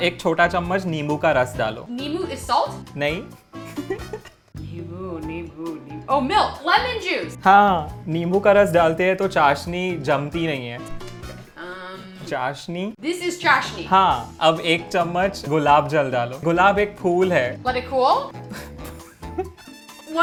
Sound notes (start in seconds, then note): 0.1 speaking in Hindi; 3.8 whispering Hindi; 8.1 speaking in Hindi; 14.2 Hindi; 14.5 speaking in Hindi; 18.4 both laughing